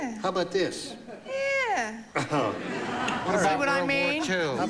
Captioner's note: chuckles